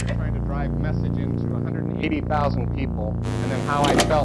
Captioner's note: click; buzz; click